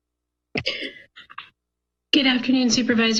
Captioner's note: microphone sound